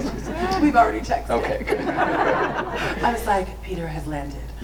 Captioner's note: group laughs; laughs; group laughs